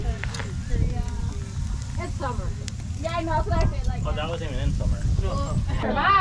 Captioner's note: sizzling